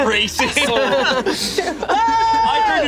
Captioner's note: group laughs